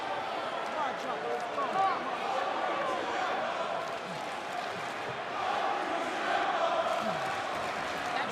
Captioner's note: crowd cheering